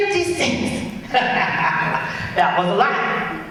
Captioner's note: laughs